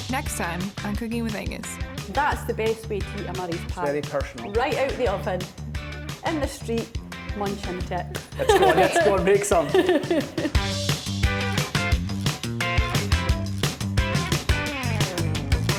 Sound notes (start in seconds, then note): 2.1 with Scottish accent; 8.2 all laughing; 10.7 upbeat funky music